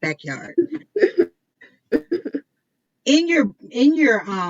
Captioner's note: laughs